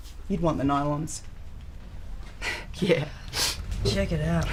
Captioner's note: laughs